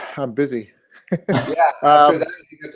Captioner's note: laugh